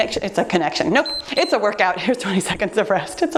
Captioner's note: timer beeps